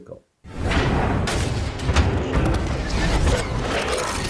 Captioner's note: loud thumps